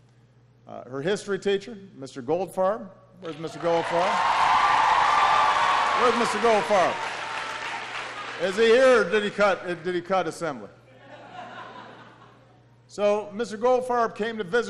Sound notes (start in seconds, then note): 5.3 applause; 10.9 laughter